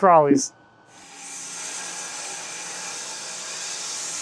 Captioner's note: saw whirring